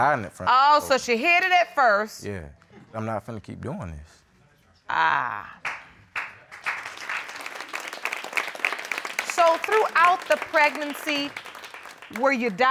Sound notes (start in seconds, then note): 5.6 audience clapping